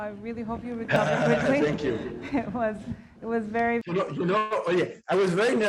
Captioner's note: chuckling